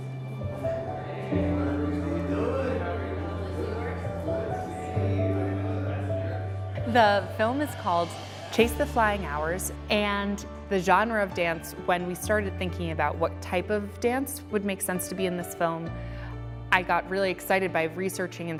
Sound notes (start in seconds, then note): 0.0 soft piano music; 2.7 crowd murmuring